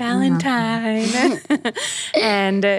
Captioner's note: laugh